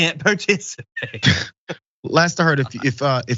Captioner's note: laugh